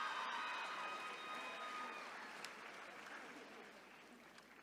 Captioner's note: attendees cheering